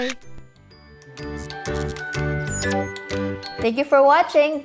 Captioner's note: blip